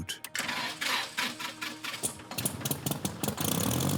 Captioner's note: engine starts